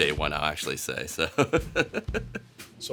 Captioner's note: laughter